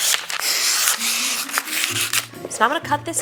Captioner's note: scissors slices through paper